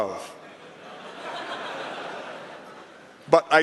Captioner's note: laughter